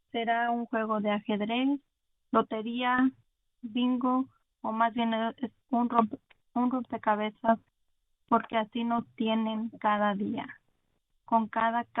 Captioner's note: speaking Spanish